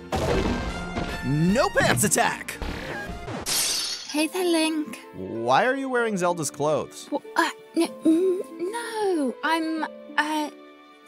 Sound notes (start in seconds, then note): 2.7 magical zap; 3.2 glass breaks